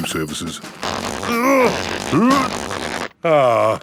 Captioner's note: grunting